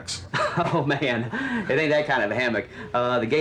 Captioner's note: laughs